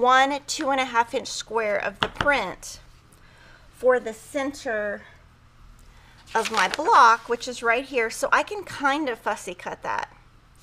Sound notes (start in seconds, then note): none